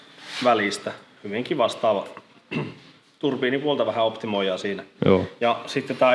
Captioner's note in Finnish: rykäisee